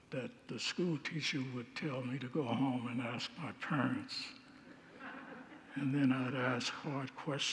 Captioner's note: congregants laugh